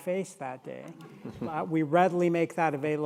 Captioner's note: audience laughing